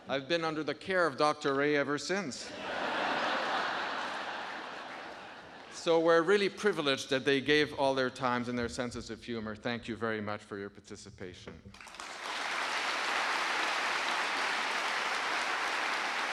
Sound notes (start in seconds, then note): 2.5 audience laughing; 11.7 audience applauding